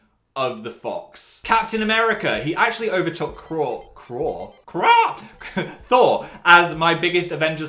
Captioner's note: laughs